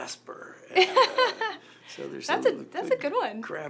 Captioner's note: laughs